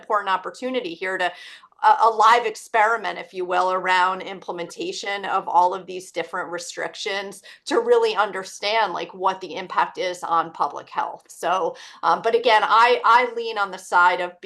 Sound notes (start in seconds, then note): none